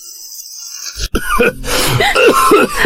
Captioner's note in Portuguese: tosse